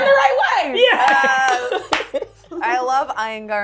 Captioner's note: laughing